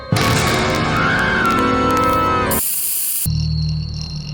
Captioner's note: screams